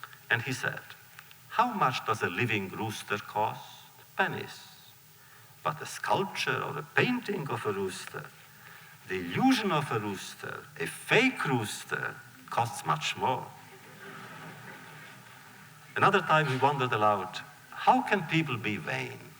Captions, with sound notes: And he said, “How much does a living rooster cost? Pennies. But a sculpture or a painting of a rooster, the illusion of a rooster, a fake rooster, costs much more.” (laughter) Another time, he wondered aloud, “How can people be vain?